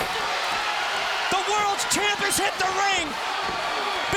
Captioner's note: crowd cheering